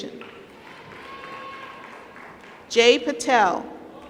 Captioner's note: applause